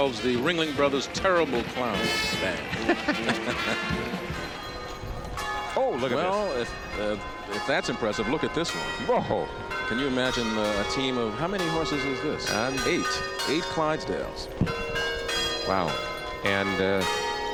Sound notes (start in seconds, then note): 5.2 laughs; 5.4 bells chiming